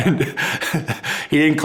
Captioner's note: chuckling